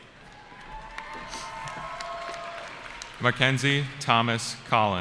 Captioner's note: cheering